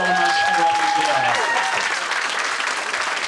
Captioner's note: audience applauding